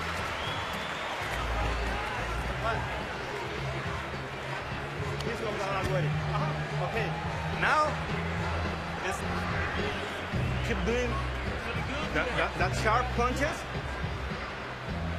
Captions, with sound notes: [Speaking quietly] OK. Now... keep doing that sharp punches.